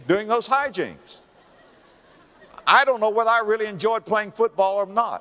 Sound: audience laughter

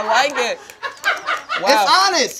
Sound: crew member laughing

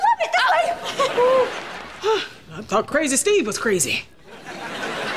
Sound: sighing

